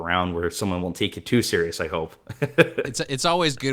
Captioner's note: laughs